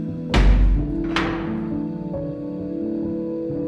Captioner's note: gate clanking; soothing music continues